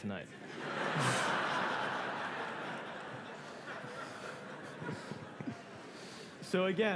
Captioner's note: laughter